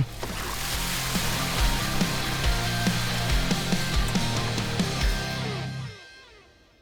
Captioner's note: water pouring; rock music continues